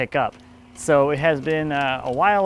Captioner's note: cranking